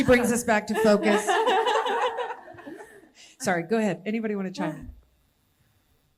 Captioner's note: laughter